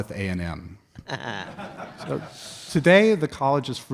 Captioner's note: audience laughs